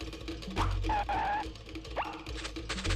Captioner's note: skidding